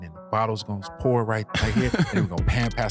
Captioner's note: laughing